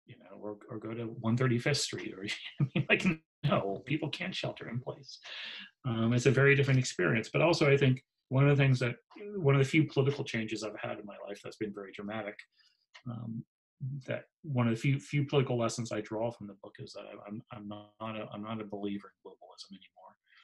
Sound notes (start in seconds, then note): 2.0 laughs